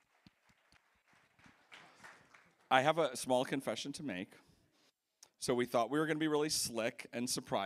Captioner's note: applause